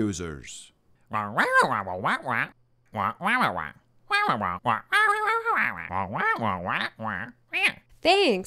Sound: explanatory squawking

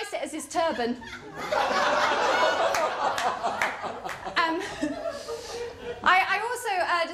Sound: laughter

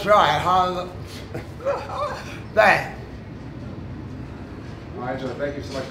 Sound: wheezing

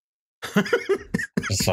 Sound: laughter

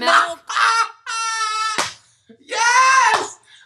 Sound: Trixie laughs

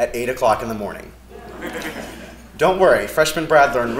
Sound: laugh

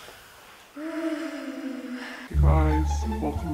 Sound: cold noises

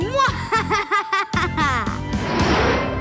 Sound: evil laughter

